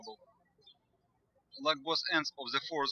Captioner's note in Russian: птички щебечут